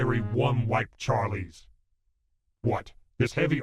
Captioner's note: music Stops